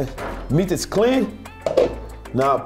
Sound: lid clatters

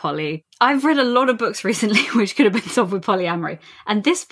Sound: lauging

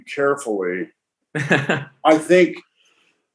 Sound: chuckles

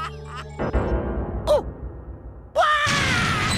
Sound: screaming

